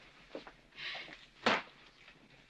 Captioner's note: smack